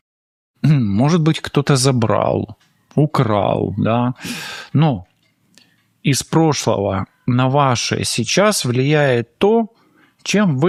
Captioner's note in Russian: тяжело вздыхает